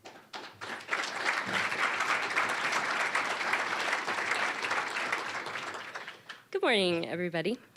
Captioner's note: applause